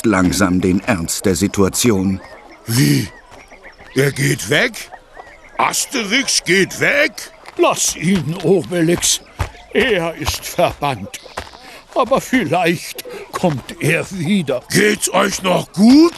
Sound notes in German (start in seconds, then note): 3.4 gelächter